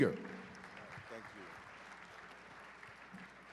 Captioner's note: applause